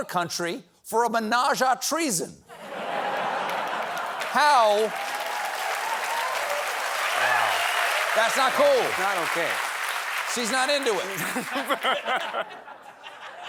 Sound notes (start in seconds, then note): 2.5 laughter; 6.6 applause